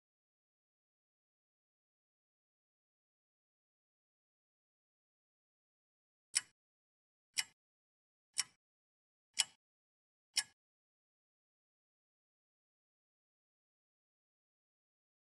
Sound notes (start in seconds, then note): 6.3 clock ticks